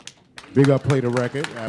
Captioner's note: applause